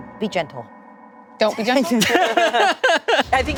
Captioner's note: group laughing